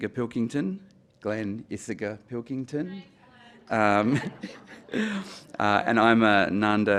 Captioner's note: background chatter